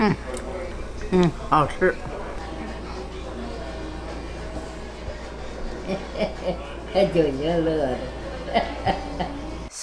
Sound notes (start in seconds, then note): 1.6 grandma speaking Chinese; 5.8 grandma laughing; 6.9 grandma speaking Chinese; 8.0 grandma laughing